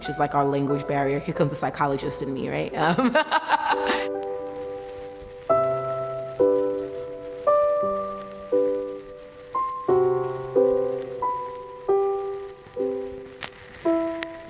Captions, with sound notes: which is like our language barrier. Here comes the psychologist in me, right? (laughing) (soft piano music)